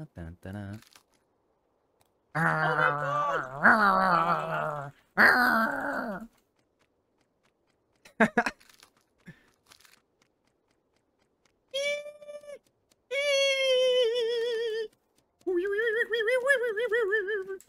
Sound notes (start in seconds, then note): 5.1 growling; 6.4 laughing; 11.5 humming